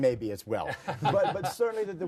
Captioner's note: group laughter